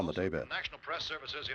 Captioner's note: none